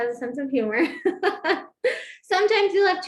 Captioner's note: laughter